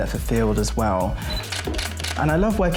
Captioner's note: camera shutter clicks